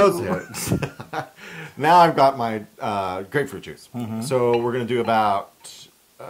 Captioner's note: laugh